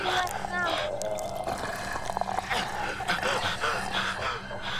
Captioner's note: Rhys gasping; mummy groaning; intense music